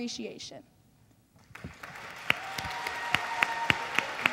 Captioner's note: cheering and applause